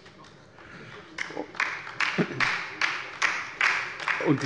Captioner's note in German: Beifall bei der LINKEN